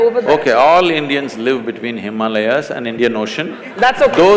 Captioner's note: laughter/Applause